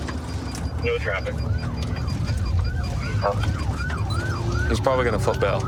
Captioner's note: sirens wailing